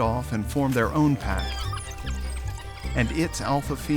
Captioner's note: pups whining